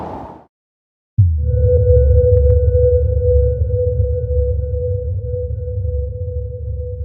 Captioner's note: water rumbling; tense ambient music